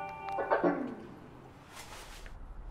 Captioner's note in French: son d'extinction de l'enceinte